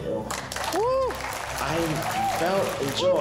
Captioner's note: applause